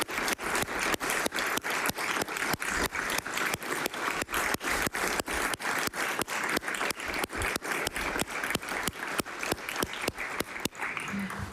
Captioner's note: applause